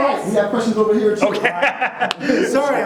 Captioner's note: laughs